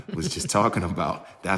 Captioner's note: laughter